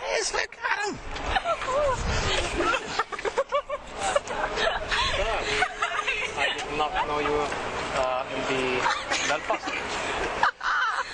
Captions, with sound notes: It is. Look at him. [LAUGHTER] I did not know you were in the Belfast.